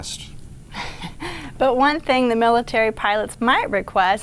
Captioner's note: chuckles